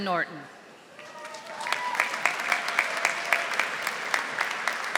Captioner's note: audience applauding